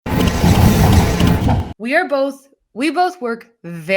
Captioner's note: electronic sizzling